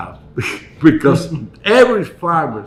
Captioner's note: chuckle